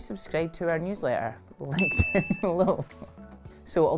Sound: laughs

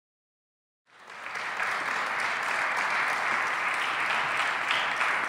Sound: applause

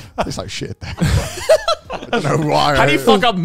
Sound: all laughing

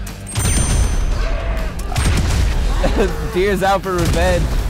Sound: explosions, affirmative ding

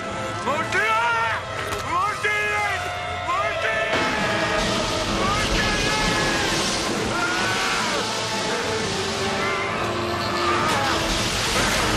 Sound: screaming

